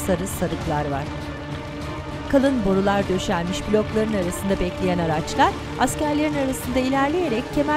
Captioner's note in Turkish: Araba sesi